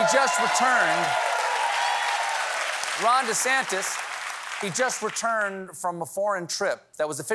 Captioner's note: cheers and applause